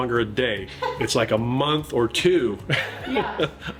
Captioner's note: laughs